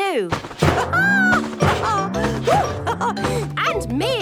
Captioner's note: laughs